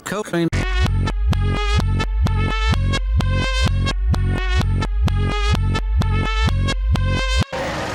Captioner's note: reversed